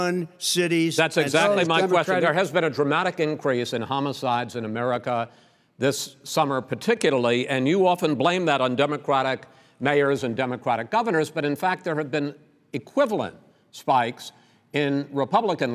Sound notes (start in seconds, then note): none